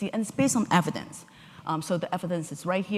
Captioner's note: none